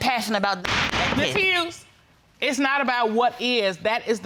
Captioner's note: gavel banging